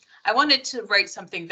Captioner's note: none